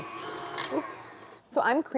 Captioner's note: mixer loudly whirs